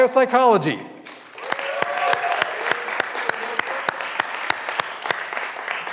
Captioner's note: graduands cheering and applauding